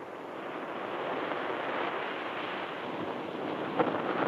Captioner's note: waves crash